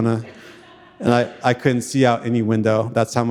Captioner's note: audience laughing